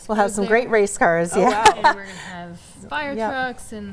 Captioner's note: laughs